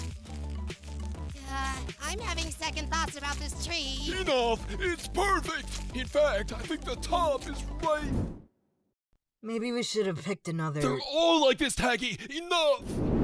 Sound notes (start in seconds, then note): none